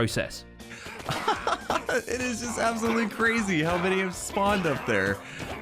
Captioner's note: laughing